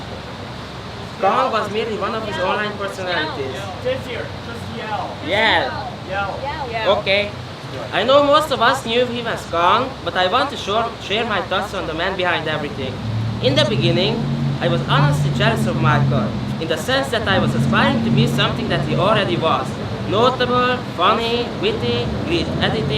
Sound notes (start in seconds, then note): 3.9 crowd